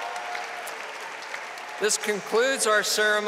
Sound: audience applauding and cheering

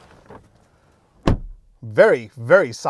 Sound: door clicking

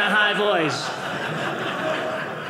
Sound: audience laughing

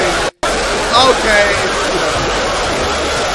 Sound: laughing so loud we are unable to hear JJ

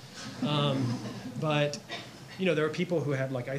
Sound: audience laughs

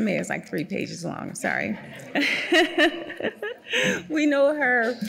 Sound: laughing

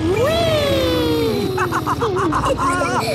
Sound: laughs

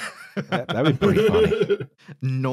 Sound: everyone laughing

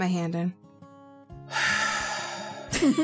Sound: sighs

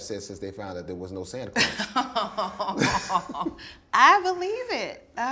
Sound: both laughing

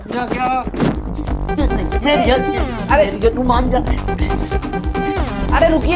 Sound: quarreling

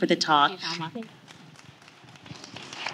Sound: applause

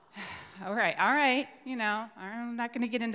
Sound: sighs

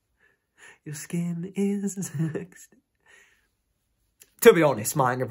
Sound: giggles

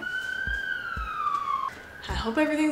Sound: sirens blaring

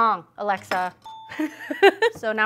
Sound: laughter

